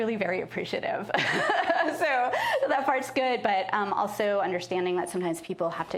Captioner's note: laughs